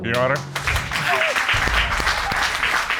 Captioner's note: applause